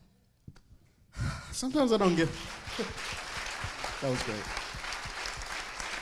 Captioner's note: audience clapping